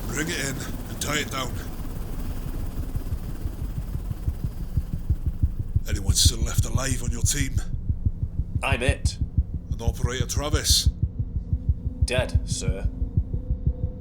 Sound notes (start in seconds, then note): 3.2 helicopter takes off